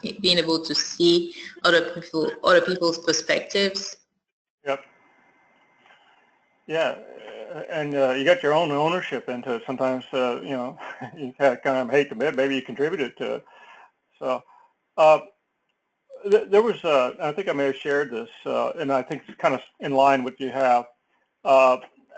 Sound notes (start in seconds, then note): 9.7 laugh